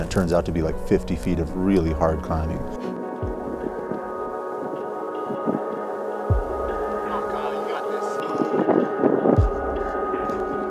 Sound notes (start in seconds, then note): 3.9 wind blowing; 5.8 tense music